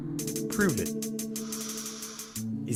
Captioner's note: inhale